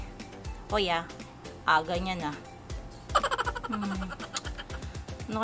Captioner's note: laughing